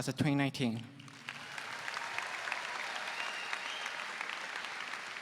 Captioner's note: audience applauds